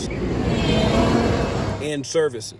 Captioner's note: bus buzzing